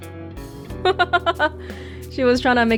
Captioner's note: chuckles